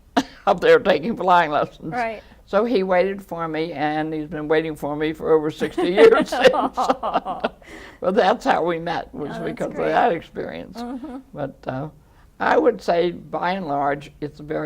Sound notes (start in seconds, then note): 0.0 chuckling; 5.6 laughter